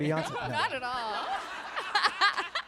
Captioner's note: laughter